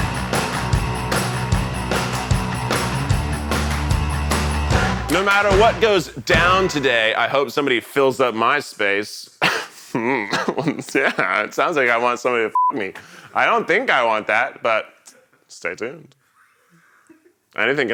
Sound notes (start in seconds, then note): 0.0 upbeat music; 9.9 chuckles